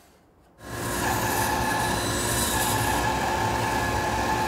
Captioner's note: saw whirring